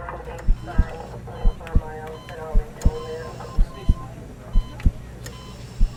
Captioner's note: hospital dispatcher talking